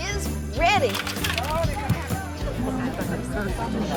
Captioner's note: vegetables thud on table; people chattering